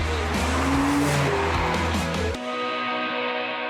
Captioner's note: car engine revving; dynamic instrumental music